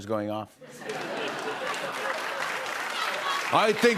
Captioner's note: laughter and applause